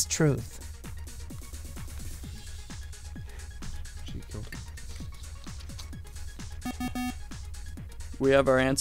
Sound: wispering

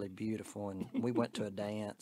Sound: giggling

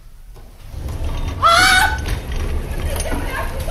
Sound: the woman screams

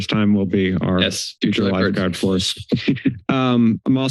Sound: laugher

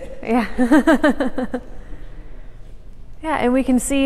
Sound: laughing

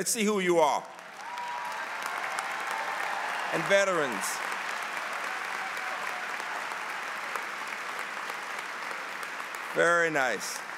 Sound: applause

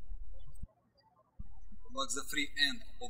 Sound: birds chirping

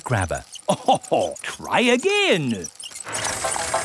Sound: chuckles

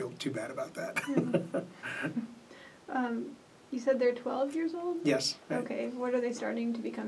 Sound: laugh

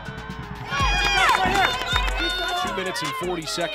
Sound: team members cheer

